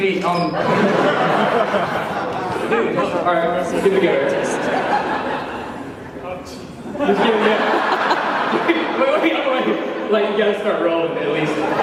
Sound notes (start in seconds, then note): 0.5 laughter; 6.9 laughter